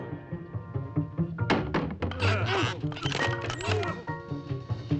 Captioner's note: straining